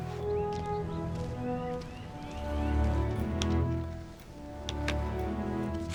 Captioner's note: birds chirping; light music